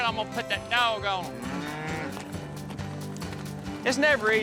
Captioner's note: mooing